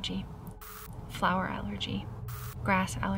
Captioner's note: static crackles; static crackles